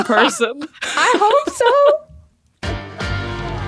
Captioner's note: laugh